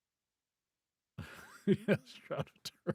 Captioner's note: laughing